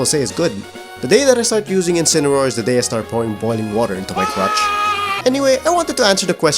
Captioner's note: aaaaaaaaaaaaaa